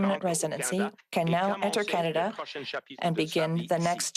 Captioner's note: speaking French